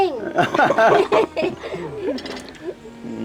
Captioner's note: everyone laughing